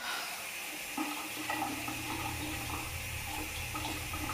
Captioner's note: shower running